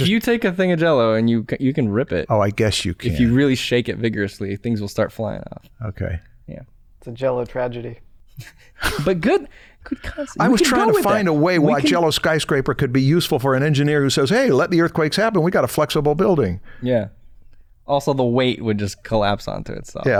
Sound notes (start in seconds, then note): 8.6 chuckles